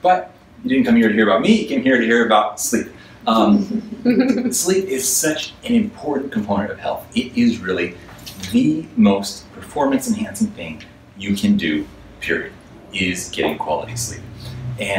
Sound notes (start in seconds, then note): 3.4 audience laughs